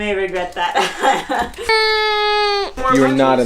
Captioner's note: tears